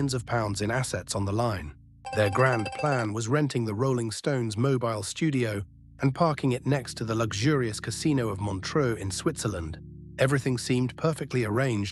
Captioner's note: SFX: slot machine payout sound